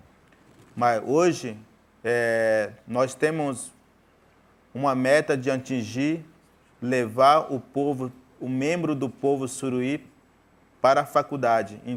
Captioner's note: speaking in portuguese